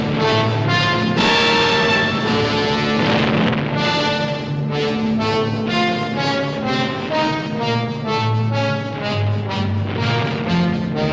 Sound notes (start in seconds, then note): 1.2 artillery exploding; 5.8 grandiose music